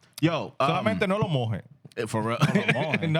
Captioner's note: speaking In Foreign Language